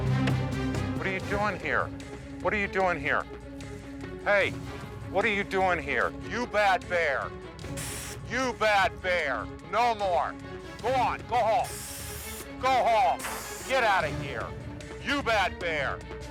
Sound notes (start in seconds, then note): 7.6 pepper spray hissing; 10.8 pepper spray hissing; 16.0 tense music continues